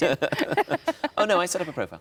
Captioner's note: laughing